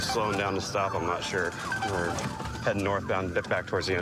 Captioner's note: sirens blaring